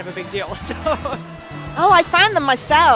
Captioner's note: laughs